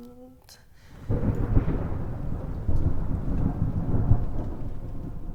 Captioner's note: thunder rumbles